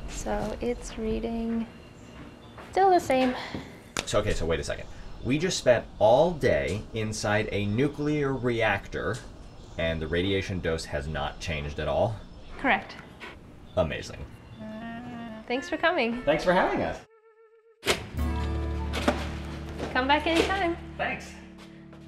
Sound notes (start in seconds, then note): 18.9 door opening